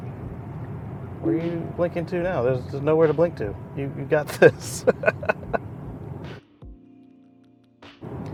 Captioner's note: laughter